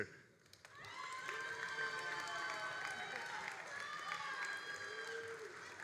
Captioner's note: all applauding and cheering